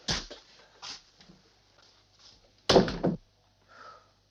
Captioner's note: door banging